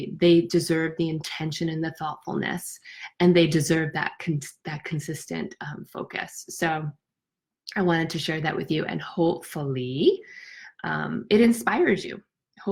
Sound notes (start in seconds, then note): none